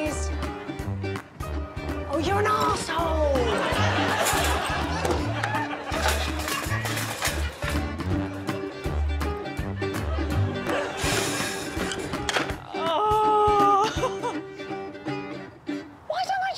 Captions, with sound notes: Okay, please. -Oh, you're an asshole! -[audience laughing] -[shelf rattling] -[sponge tiles thudding] -[audience laughing] -[shelf rattling] [upbeat music] [shelf rattling] [Morgana sighing in exasperation]